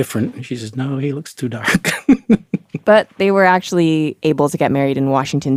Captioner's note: laughs